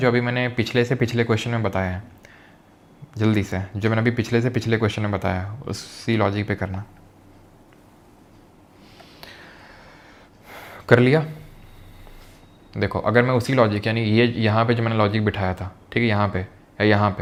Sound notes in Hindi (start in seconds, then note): 8.8 गहरी सांस लेने की आवाज़